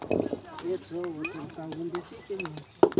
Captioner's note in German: Stimmengewirr